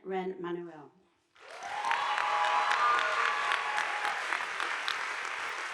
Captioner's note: audience applauding